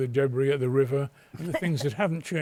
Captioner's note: laughter